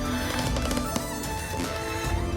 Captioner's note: footsteps creaking